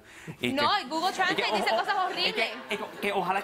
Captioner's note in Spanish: Risas